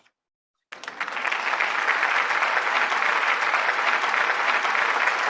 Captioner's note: applause